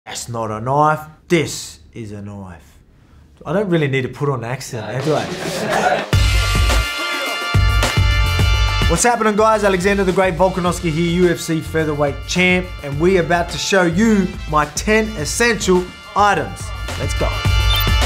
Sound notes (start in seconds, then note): 4.8 people laughing; 6.5 upbeat music